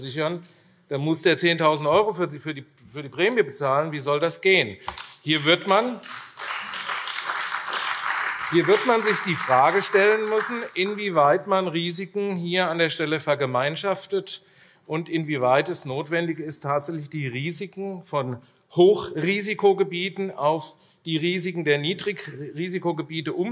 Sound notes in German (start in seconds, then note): 4.9 Beifall AfD